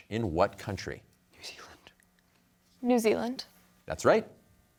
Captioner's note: whispering